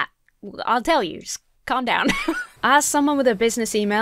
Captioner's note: chuckles